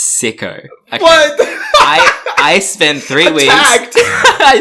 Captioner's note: laughs; laughs